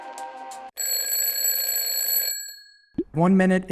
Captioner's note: bell rings